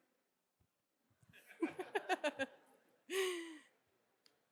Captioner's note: chuckles